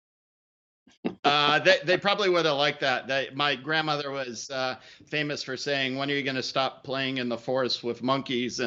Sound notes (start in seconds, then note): 1.2 laughing